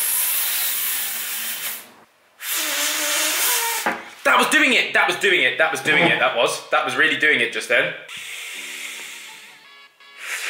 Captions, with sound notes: That was doing it. That was doing it. That was doing it. That was really doing it just then. (blows)